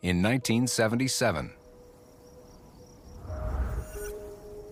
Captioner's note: insects chirping